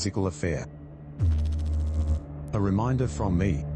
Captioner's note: electrical noise